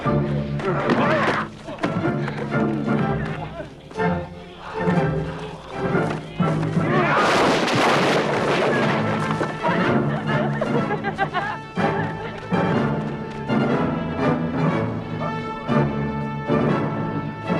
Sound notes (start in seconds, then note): 0.4 all grunting; 7.5 posts clatter; 8.9 both laughing